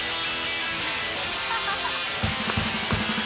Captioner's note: laughing